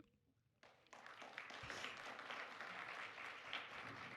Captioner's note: applause